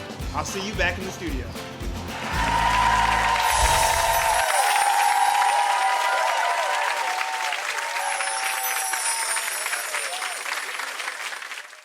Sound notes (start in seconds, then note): 2.0 audience cheers and applause